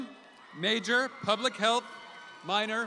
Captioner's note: audience applauds